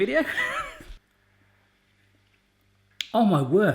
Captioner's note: laughs